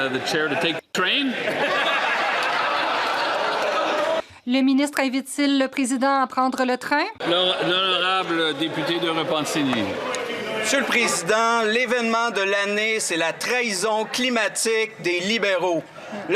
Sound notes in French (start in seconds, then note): 2.3 applaudissements; 10.1 voix de l'interprète